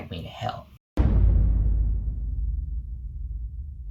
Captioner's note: dramatic boom